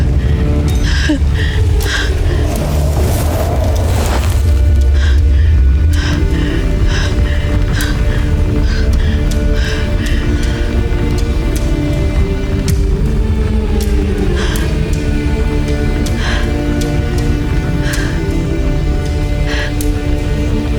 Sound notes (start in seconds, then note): 0.4 tense music playing; 2.9 elemental whoosh-crackle